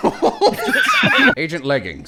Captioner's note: laughter